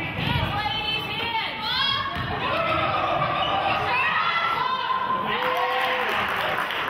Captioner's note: murmurs; cheering and clapping